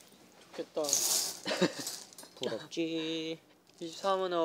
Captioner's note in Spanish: Jajaja